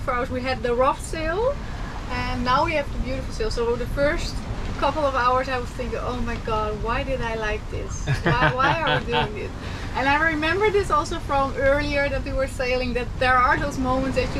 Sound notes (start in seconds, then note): 8.0 laughing